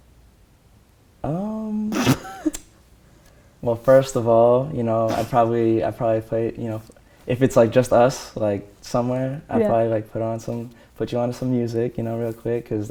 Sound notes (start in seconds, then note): 1.9 she snickers